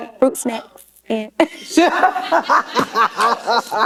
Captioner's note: laughter